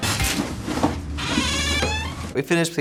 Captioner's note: door creaks